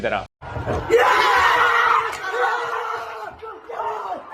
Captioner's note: players cheering